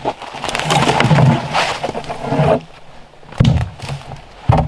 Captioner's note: brush rustling